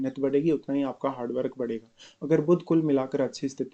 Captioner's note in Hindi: नाक से की जाने वाली आवाज़